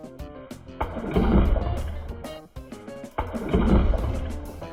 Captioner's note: water splashes